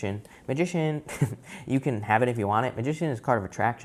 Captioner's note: chuckles